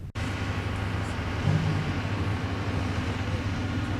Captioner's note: machinery sounds